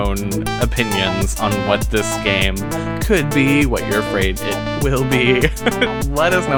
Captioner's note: laughs